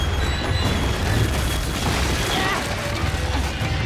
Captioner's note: crumbling